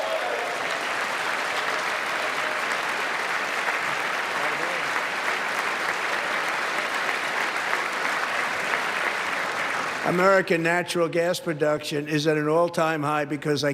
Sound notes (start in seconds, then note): 6.0 applause